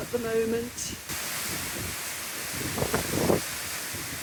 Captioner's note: loud wind in trees